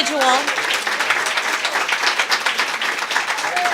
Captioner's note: applause